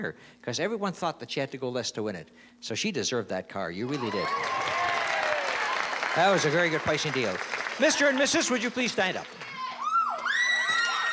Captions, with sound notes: because everyone thought that she had to go less to win it. So she deserved that car, you really did. [CHEERING, APPLAUSE] That was a very good pricing deal. Mr. and Mrs., would you please stand up?